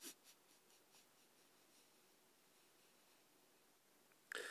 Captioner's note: soft sobbing